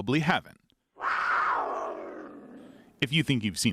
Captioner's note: big cat yowls